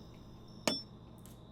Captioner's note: hammer on nail